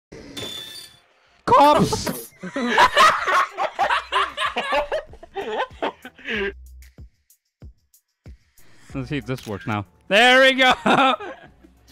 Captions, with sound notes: - Cops! (laughter) - Let's see if this works now. - There we go! (chuckles)